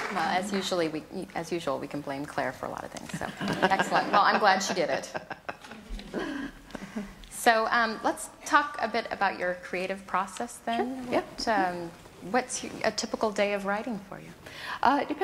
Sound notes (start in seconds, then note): 3.3 laughs